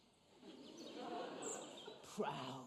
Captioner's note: audience laughs